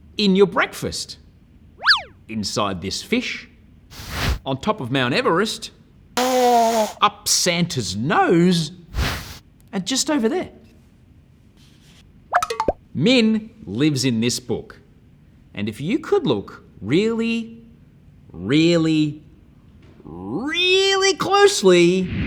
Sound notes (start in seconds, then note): 6.2 nose blowing; 22.0 whooshing